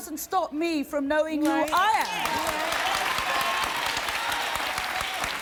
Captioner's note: audience cheering